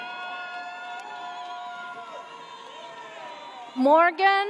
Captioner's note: audience cheers